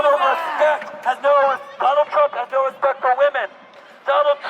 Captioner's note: man on megaphone